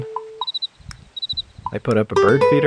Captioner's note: cricket sound